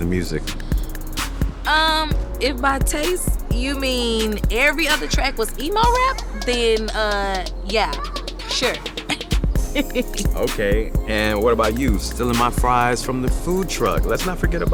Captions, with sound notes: Let's not forget about that. Oh, well, you let me, so I guess I was worth it. Mmm.... Mmm....Mmm....Mmm (laughs) Ooo....I just miss the good old